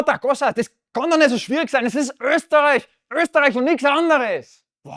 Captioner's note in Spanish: Se enfada en alemán